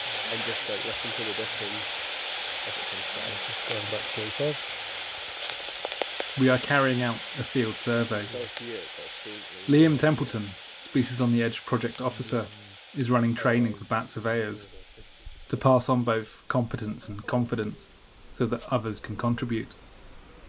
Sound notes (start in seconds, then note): 5.9 static hiss continues in background